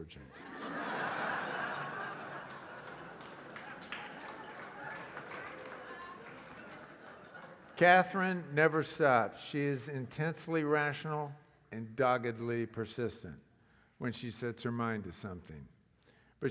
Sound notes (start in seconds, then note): 0.4 laugh; 3.5 applause